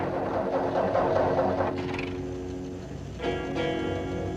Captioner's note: car starting